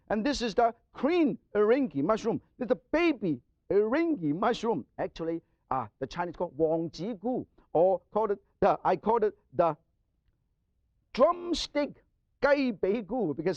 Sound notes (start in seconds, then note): 6.8 speaks Chinese; 11.3 speaks Chinese